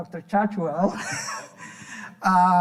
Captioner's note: laughing